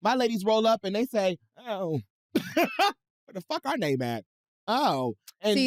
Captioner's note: laughs